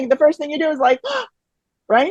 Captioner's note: gasp